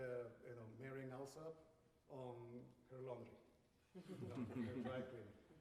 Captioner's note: laughter